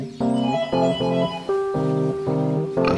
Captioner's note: loose music; doorbells